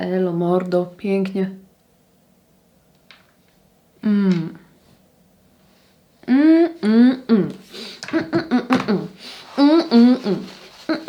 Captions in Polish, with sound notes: Elo, mordo. Pięknie. [parsknięcie]